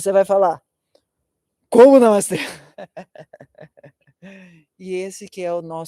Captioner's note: laughter